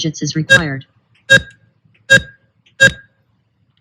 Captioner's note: beeps